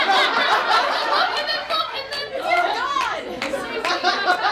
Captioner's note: laughing